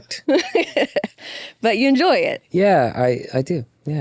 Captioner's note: laughs